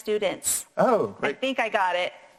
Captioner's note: sighs